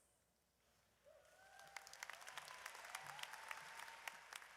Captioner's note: audience cheers